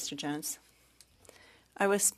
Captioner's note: speaking French